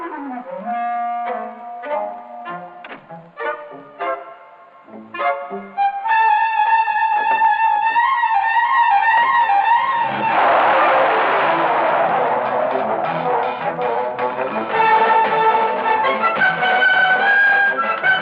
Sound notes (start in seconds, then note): 10.1 car revving; 14.9 intense music